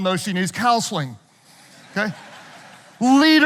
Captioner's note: audience laughing